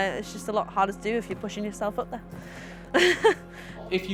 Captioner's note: laugh